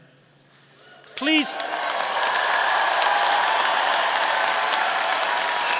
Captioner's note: audience cheering